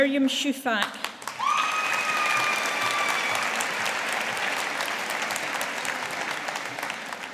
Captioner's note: audience applauding